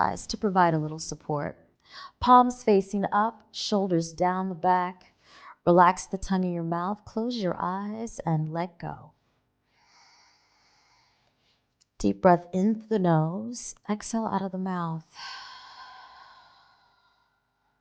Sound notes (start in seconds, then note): 9.7 audible breathing; 15.2 exhaling